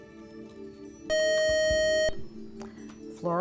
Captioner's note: buzzer